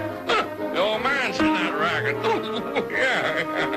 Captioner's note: grunts